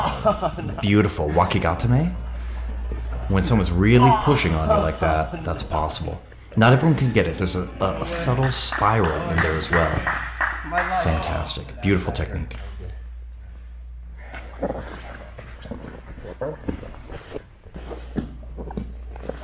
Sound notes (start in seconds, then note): 0.0 laughs; 8.0 spectator applauds